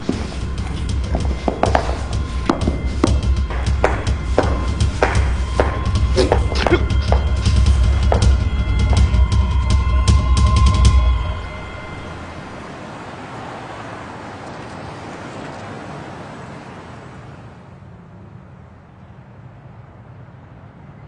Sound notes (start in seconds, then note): 0.3 melodic suspenseful music; 13.5 traffic rumbling quietly